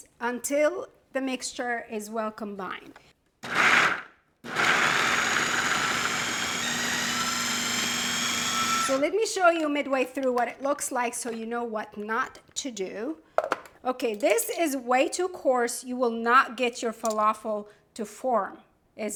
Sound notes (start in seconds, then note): 4.4 food processor whirring